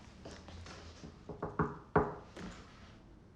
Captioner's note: knocking